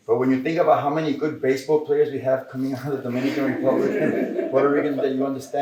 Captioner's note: laughter